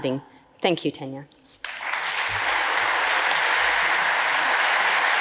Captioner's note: audience applauds